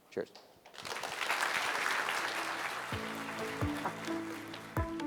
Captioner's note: audience clapping